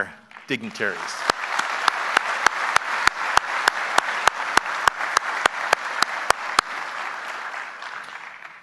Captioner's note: applause